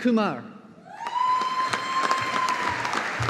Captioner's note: audience applauding